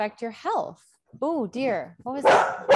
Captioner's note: dog barking